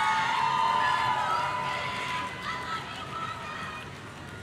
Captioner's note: audience cheering